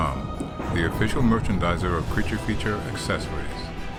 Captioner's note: none